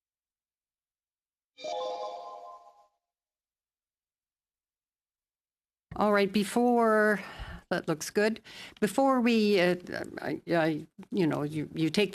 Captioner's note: chime sounds